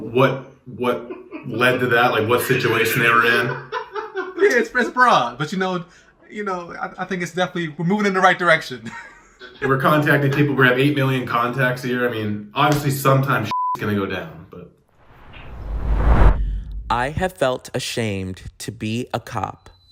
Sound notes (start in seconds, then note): 2.4 all laughing; 13.5 beep